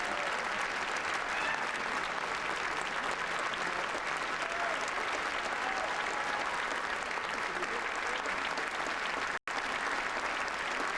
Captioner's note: applause